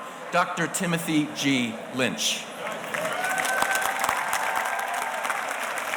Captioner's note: audience applauding